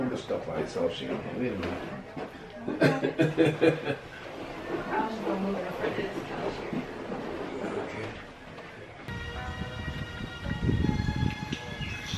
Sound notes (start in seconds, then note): 2.8 laughs; 9.1 classical music